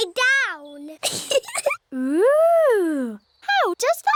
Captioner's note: giggles